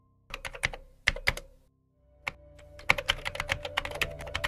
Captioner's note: typing sound; Notification sound from GMAIL